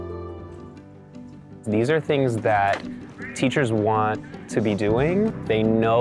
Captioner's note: voiceover